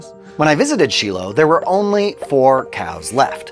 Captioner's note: graphic popping